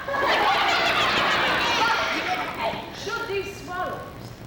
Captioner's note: women laugh